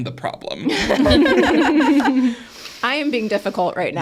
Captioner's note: speakers laugh